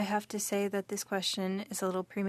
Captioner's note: speaking French